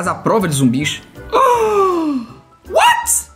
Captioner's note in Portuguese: faz som de surpresa